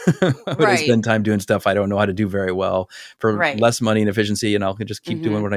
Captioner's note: laugh; laugh